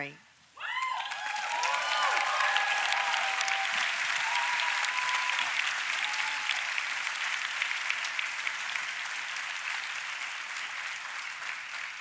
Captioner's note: applause